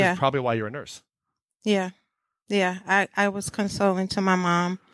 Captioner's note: none